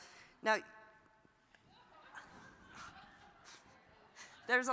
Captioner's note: audience laughs